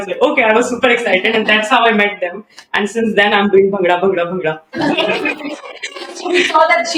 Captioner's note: laughter